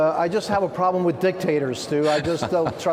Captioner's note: laughter